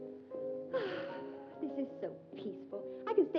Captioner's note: sighs